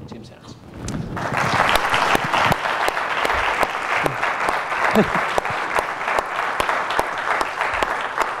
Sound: applause

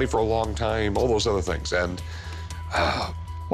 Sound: sighs

